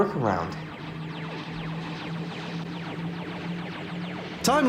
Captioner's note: sound effects